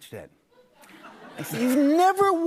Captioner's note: laughter